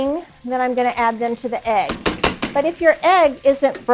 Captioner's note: taps